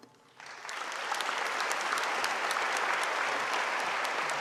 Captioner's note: audience applauding